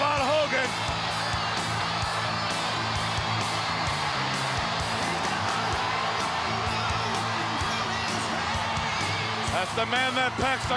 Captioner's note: crowd cheering